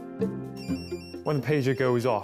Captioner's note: pager rings